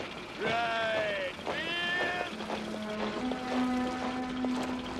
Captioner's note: Pria berteriak perintah